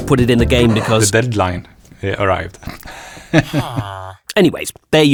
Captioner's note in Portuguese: Risos